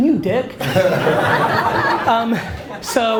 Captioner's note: audience laughs